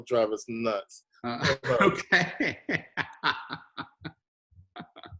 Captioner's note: laughing